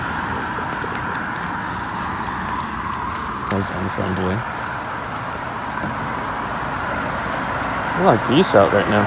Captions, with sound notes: (Goose hisses) That was unfriendly. There are a lot of geese out right now.